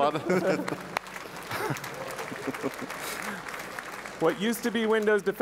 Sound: audience applause

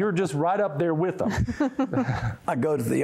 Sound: giggling

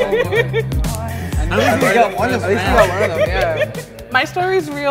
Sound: group laughing

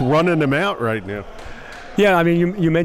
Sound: applauding

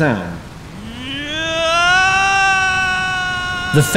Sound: inhuman roar

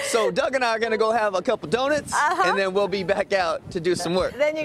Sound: laughing

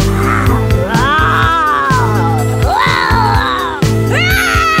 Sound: monster roars and groans; child roars

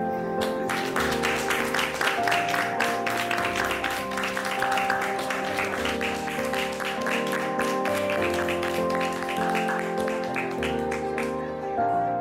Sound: applause

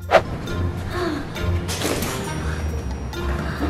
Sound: sigh

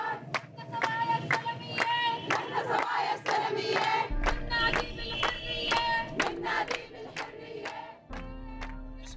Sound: chanting

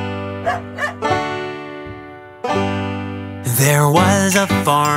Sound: pleasant banjo music; Bingo barking

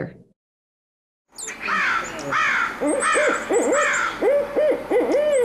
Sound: owls hooting

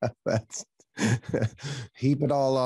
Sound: laughter; laughs

